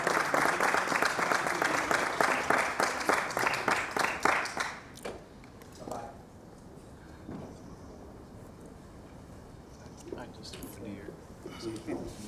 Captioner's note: clapping